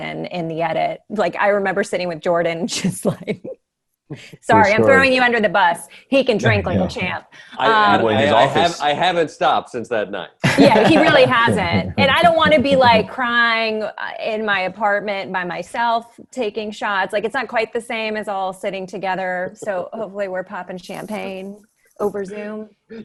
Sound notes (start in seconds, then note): 10.4 Ronny laughs